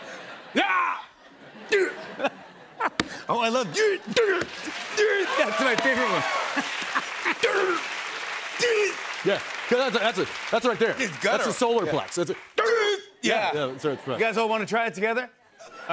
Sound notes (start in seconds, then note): 0.0 laughter; 5.9 laughs